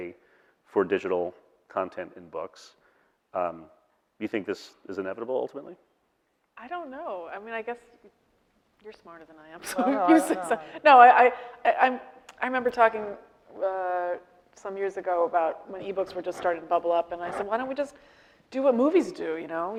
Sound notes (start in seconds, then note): 9.6 laughing